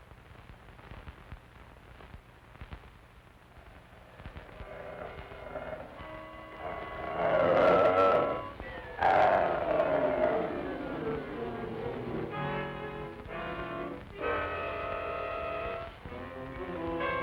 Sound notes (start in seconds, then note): 3.6 wolf growling; 4.4 tense music